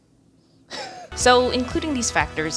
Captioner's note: chuckles